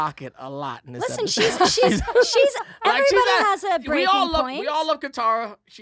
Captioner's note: laughs